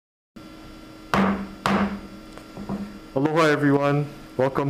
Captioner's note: gavel banging